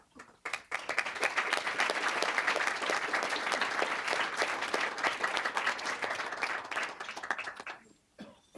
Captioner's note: applause